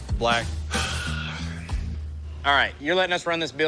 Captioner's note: sighs